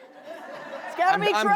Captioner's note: crowd laughs